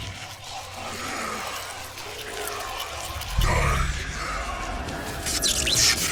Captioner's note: static